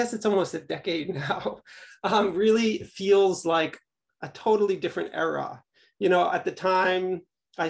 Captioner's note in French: rires